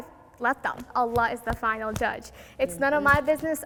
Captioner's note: fist claps